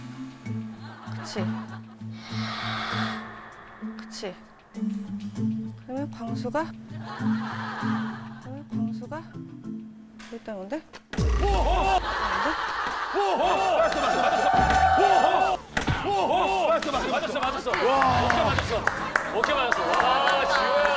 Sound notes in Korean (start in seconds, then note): 2.8 스윽